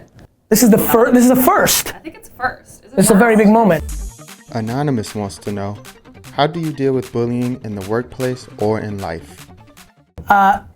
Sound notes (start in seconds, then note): 4.5 voiceover